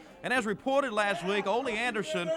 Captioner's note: crowd chatter